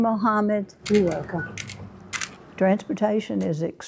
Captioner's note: cane tapping